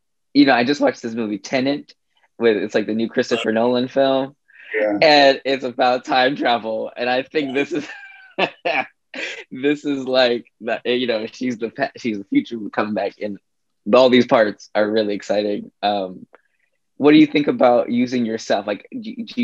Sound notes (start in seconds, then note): 7.9 laughs